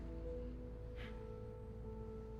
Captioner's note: scoffs